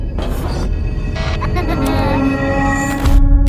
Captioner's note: laughter; dramatic music